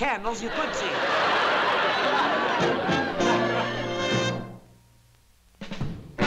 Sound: laughter

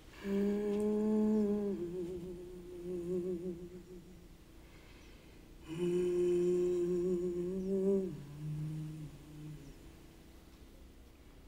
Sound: humming

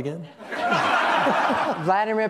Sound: laughter

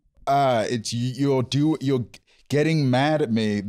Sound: none

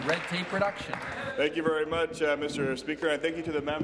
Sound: applause

